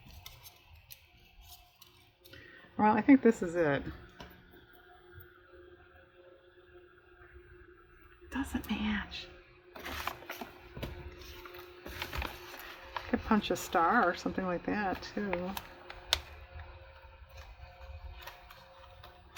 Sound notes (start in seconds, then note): 3.6 whispers